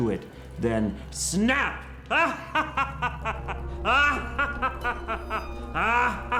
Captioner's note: evil laugh